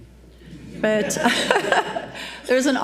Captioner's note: audience laughs